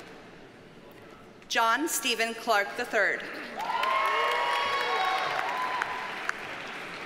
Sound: audience cheers and applauds

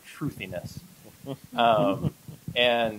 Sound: laughter

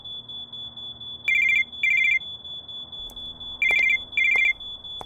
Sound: now fire alarm + phone ringing, a mess

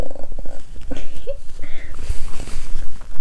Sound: laughs

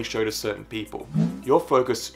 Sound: air whooshing

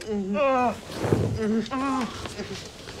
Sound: groans

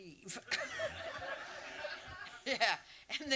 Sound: audience laughs

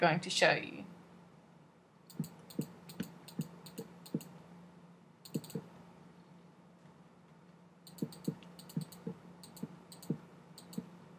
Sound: mouse clicking

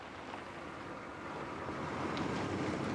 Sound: none

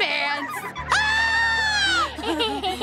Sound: screaming; laughing

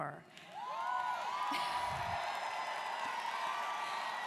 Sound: students cheering

